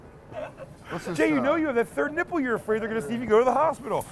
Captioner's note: laughing